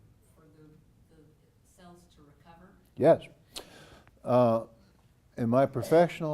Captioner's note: cough